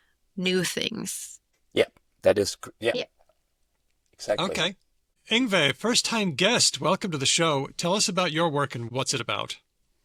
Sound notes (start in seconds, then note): none